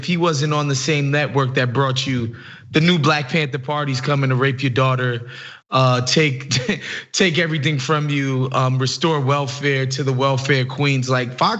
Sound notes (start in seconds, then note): 6.4 laugh